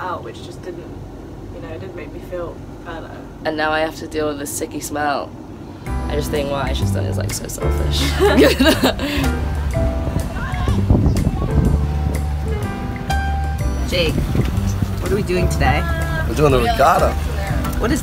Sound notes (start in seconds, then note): 8.0 laughter; 9.2 jazz music